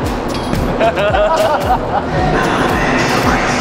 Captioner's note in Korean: 웃음 빵